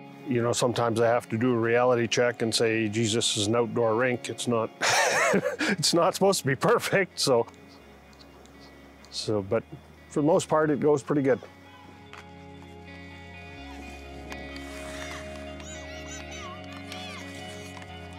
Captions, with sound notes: You know, sometimes I have to do a reality check and say, Jesus, it's an outdoor rink. (laughs) It's not supposed to be perfect. But for the most part it goes pretty good. (pensive atmospheric music) (excited chattering)